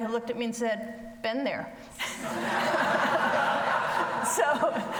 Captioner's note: audience laughs